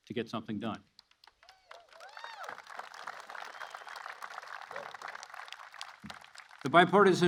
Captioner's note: applause